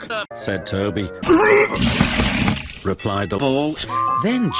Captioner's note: vomit